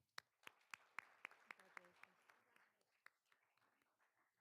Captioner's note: all applauding